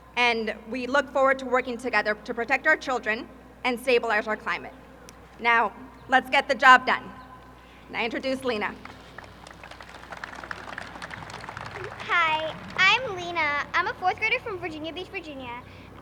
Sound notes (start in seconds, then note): 8.6 applause